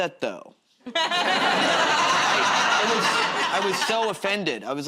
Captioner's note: laughter